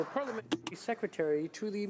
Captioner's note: applause